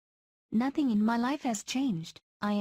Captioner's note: Vietnamese